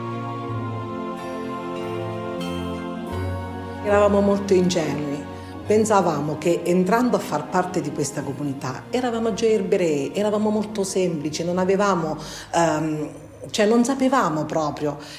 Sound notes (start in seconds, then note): 0.2 gentle music; 4.0 speaks in foreign language